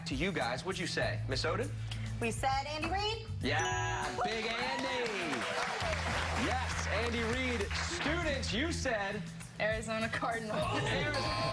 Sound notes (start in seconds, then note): 4.1 cheers and applause